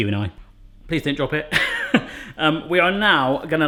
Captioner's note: laughs